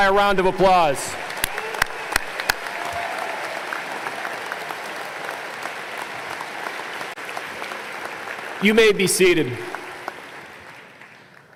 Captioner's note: applause